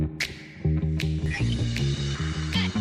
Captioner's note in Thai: เสียงเอฟเฟ็กต์